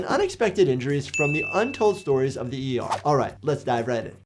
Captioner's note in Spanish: suena la campana